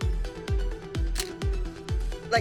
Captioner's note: camera shutter clicks